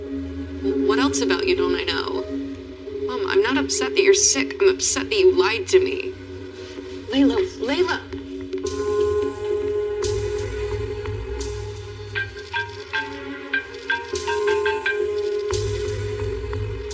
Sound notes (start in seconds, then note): 8.5 dramatitic music; 11.8 cell phonone buzzes